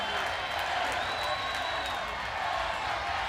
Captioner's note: crowd cheering